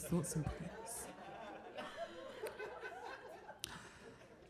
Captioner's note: audience laughing